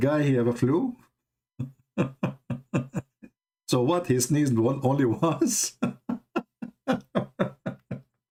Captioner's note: Ketawa